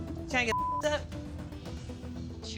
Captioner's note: beep